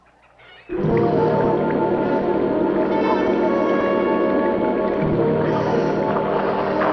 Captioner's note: dramatic music; water splashing